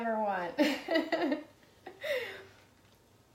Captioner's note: laughs